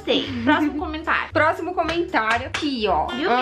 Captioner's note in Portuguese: Som de tapa na bunda